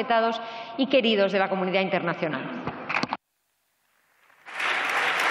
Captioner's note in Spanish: Aplausos